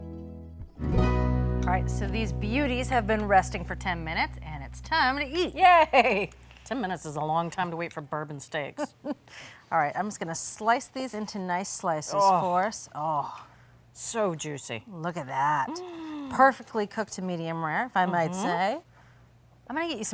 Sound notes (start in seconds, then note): 5.6 laughing; 8.8 laughing; 15.6 sighing